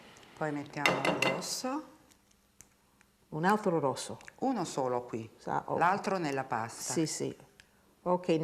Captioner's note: speaking Italian